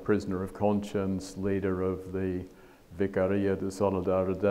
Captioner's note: speaks foreign language